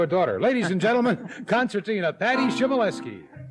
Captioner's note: laughs